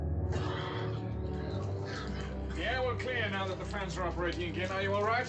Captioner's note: coughing